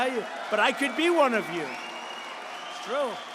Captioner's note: applause